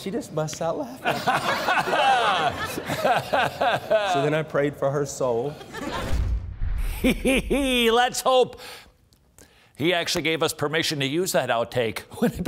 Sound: everyone laughing; laughs

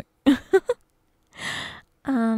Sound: giggles

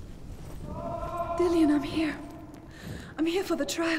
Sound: distant scream

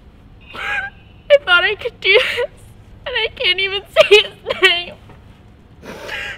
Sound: sob; sobs

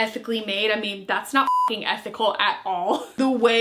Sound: beep

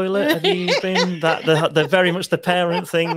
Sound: laughing

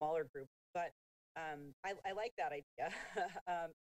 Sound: chuckling

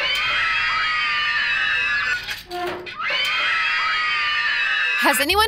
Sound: everyone in video screaming

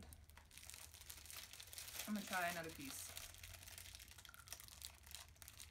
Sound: package crinkles

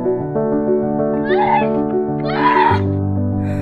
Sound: gasping

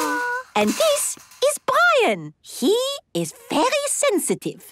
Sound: squeaking

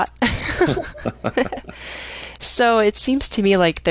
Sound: both laughing

